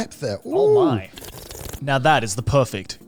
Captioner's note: sipping